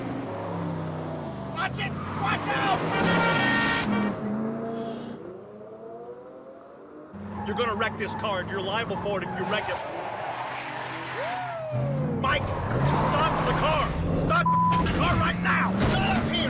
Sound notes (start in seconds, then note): 2.8 horn blaring